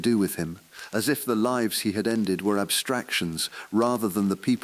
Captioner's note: exhale